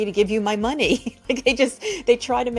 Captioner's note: laughs